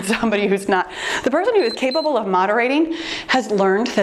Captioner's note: timer beeps